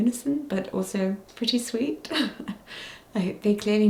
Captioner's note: chuckles